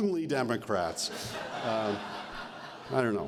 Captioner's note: laughter